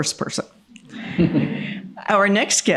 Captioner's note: laughter